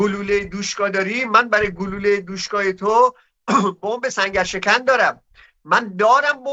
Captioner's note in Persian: گلویش را صاف می‌کند